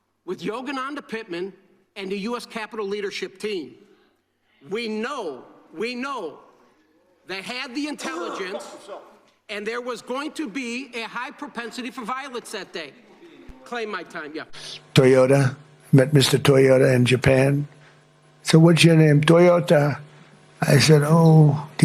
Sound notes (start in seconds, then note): 7.7 coughing